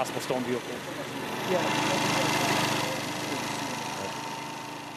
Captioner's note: engine whirring